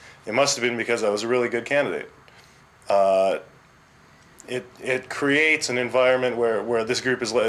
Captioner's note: none